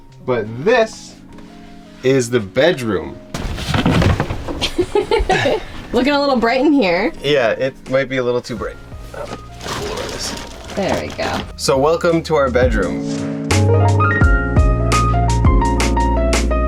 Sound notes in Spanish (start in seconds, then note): 4.6 risas; 13.1 música de piano